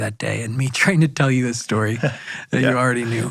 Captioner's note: chuckles